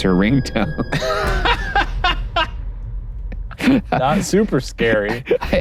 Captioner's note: both laughing